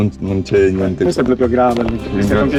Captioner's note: speaking Italian